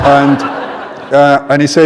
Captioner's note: laughter